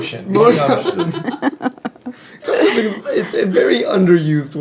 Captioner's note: laughing